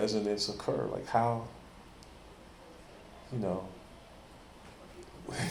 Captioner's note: chuckles